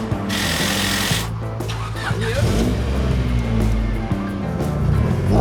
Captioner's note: 시빅 특유의 스타트 모터 소리